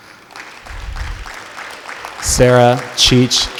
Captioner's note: clapping